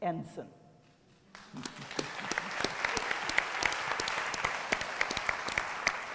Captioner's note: applause